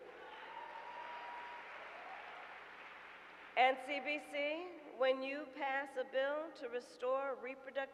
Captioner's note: applause